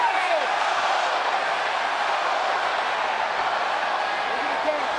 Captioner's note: crowd vocalizing